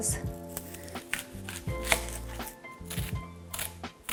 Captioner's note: chopping onions